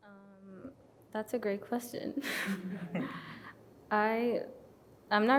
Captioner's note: chuckles